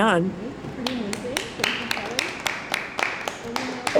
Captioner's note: applause